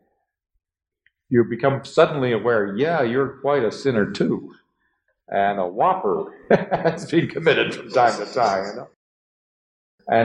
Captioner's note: laughs